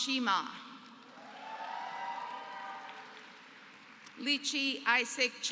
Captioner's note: applause